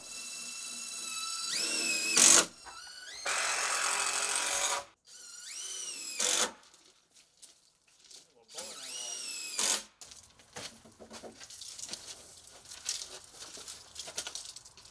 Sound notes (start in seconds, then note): 0.0 drill whirring; 3.3 drill grating; 5.0 drill whirring; 8.6 drill whirring